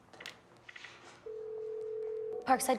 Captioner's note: phone ringing